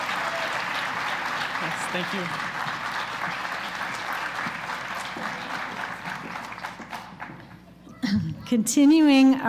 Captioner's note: applause